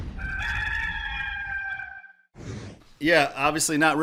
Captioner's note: rooster crowing